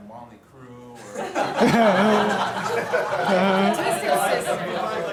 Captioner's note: audience laughter